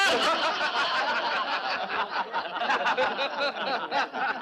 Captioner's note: boisterous laughter